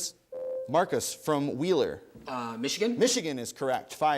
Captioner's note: ding